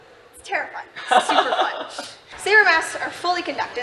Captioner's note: laughing